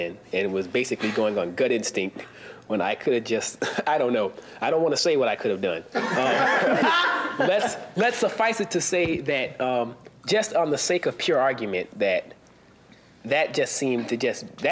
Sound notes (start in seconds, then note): 6.0 audience laughing